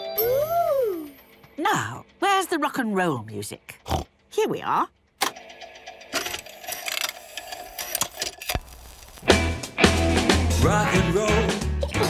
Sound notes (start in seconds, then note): 5.0 clicks, whirring